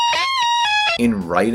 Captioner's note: dlinlinglingling